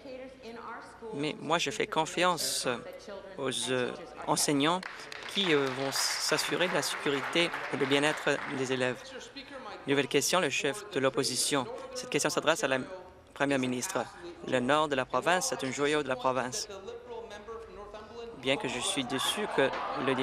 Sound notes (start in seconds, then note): 9.3 some Applause